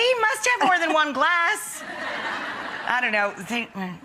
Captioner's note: laughing